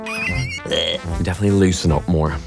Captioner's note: exclaims; laughs